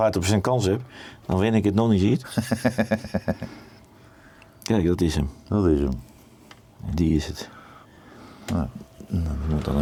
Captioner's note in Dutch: gelach